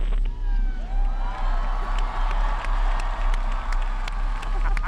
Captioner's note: cheering and applause